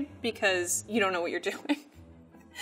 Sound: laughs

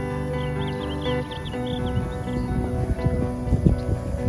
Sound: birds twittering

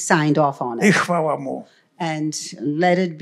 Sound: foreign language

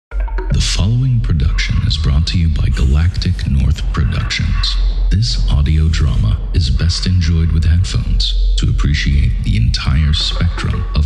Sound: When speaking, Zeb’s voice crackles through the suit’s speakers

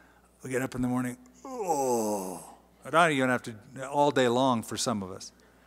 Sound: groaning

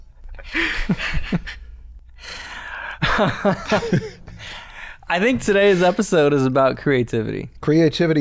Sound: laughter

